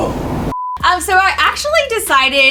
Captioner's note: beep